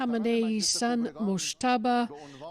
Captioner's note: speaking alternate language